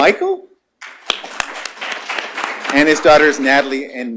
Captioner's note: applause